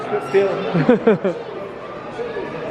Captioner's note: laughing